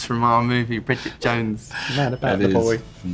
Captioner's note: bell ding